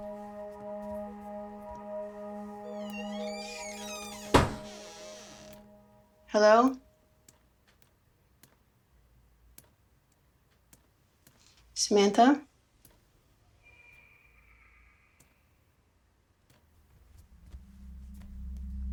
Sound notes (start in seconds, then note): 2.6 door creaking